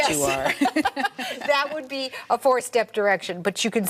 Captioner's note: all laugh